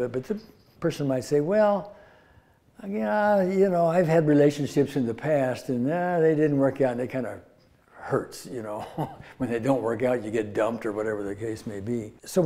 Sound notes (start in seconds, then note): 8.7 laughs